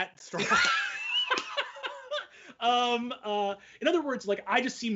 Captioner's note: laughing loudly